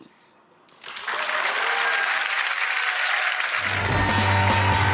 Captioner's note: audience cheering